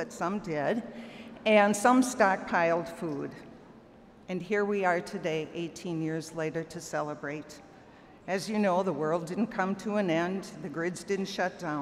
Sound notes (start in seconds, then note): none